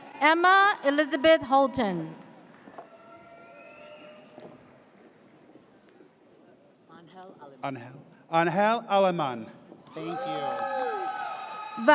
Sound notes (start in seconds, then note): 2.6 audience cheers; 9.9 audience cheers